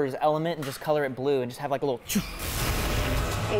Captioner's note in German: poff